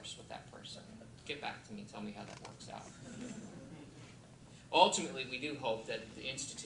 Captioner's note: laughter